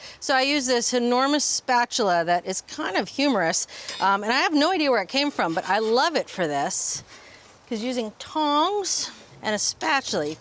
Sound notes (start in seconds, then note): none